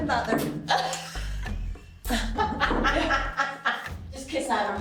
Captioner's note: laughing